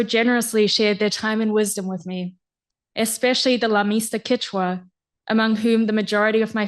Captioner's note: non-english speech